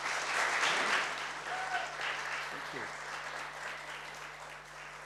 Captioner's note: clapping and cheering